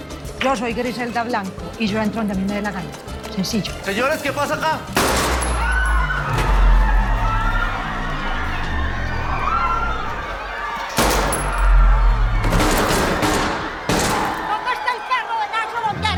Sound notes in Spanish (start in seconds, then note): 4.9 Disparo; 5.5 Gritos y exclamaciones; 12.2 Disparos